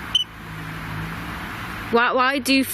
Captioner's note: device chirps